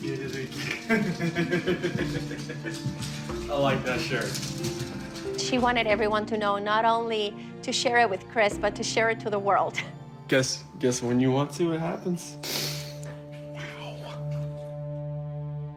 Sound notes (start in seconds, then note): 3.0 laughs